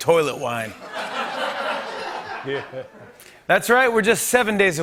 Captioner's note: laughter